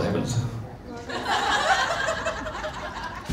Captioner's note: crowd laughs